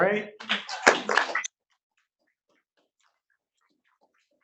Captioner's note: audience applauding